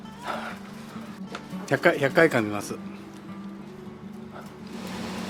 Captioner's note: laughs